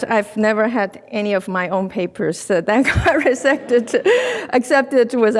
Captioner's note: laughs